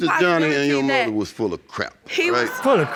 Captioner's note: audience gasping